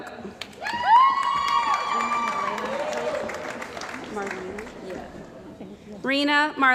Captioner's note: cheering & Applause